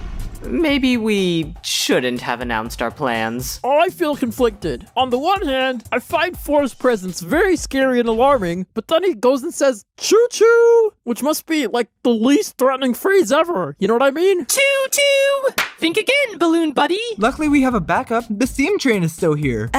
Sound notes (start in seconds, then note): 15.5 smack